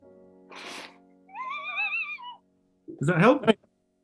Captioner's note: sniggering